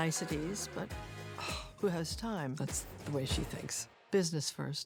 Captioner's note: scoffs